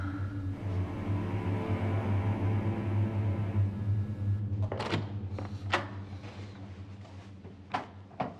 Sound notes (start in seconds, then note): 4.5 door opening